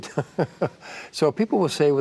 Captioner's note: laughter